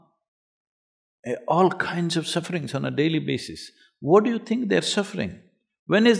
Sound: none

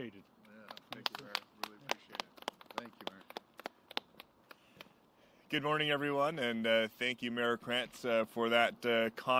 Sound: applause

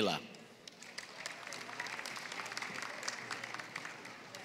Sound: applause

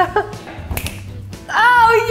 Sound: snaps

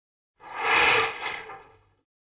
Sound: window blinds falling

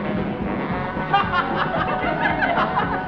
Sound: they laugh

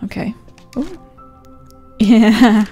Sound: laughs

